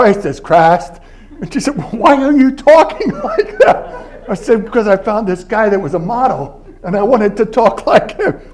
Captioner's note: southern accent